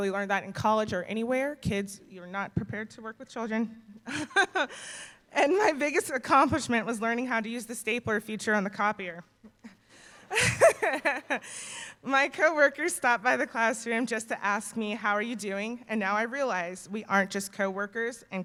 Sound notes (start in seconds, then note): 4.0 chuckles; 10.3 laughs